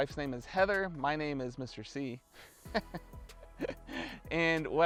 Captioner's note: laughs